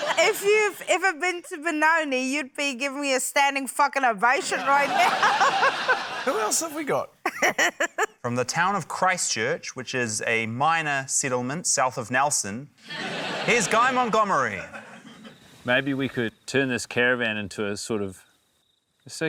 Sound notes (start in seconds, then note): 4.5 laughter; 7.2 laughs; 12.8 laughter